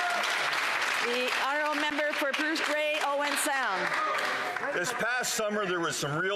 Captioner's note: some Applause